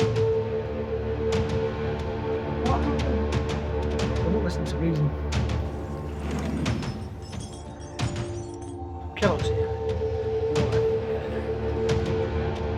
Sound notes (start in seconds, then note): 7.0 bullets clinking; 12.5 chilling music